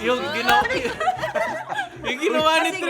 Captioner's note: laughs